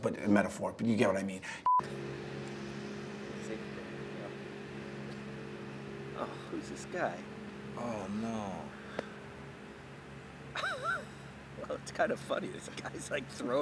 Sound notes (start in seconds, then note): 10.5 laughter